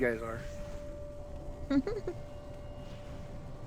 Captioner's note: laughs